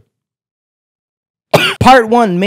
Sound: cough

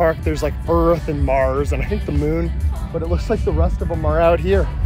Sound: none

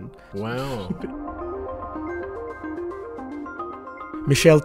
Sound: voiceover

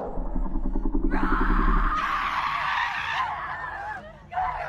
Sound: girls scream; Jocelyn screams

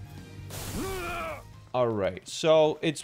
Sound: groaning of death

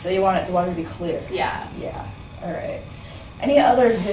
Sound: voiceover

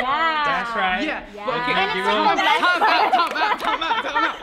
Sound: yelling

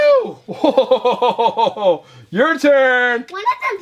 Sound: laughing

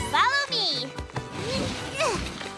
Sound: grunting

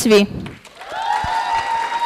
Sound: applause

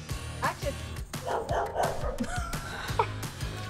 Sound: dogs barking; laughing

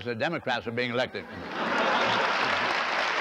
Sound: laughter; applause

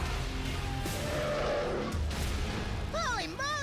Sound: growling

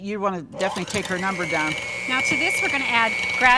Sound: mixer whirs

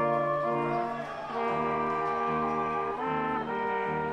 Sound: audience cheers

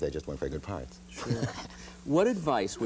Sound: laughs

